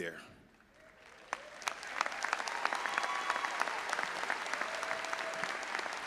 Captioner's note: audience applauding and cheering